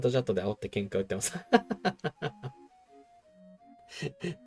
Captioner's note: laughing